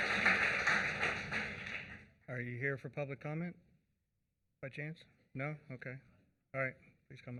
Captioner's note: applause